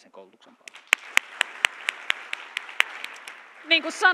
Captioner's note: applause